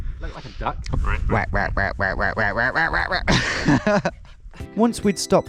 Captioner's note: laughing; quacking